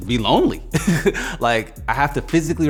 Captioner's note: laughing